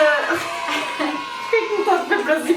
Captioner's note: kids celebrating